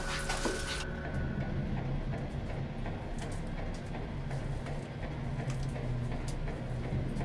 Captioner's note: machinery humming; ominous music